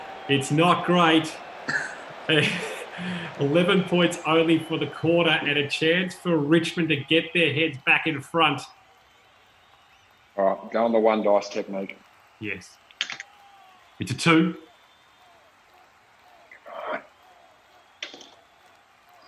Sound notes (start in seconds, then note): 1.5 laughing